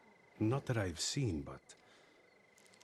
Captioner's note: none